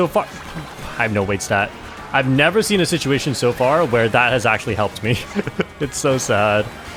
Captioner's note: laughs